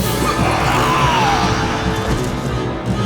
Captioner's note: dutch yells